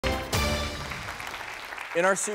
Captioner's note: applause